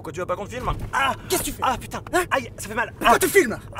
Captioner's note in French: cri de douleur de la part de GUIZMO